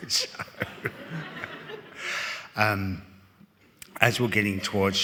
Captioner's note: all laughing